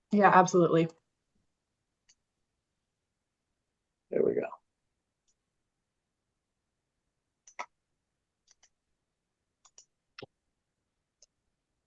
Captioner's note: pause